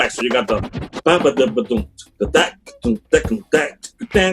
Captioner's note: vocalizes